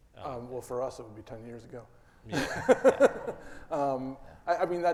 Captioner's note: laughs